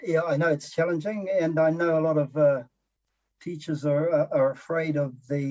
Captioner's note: chuckles